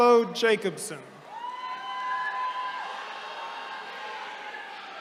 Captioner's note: attendees cheering